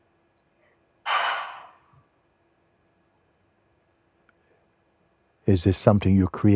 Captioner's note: sighs